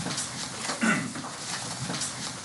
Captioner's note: clears throat